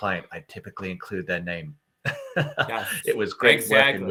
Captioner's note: laughing